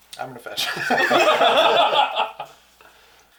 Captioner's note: all laugh